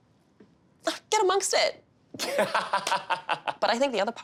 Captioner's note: laughing